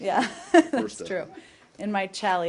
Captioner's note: laughter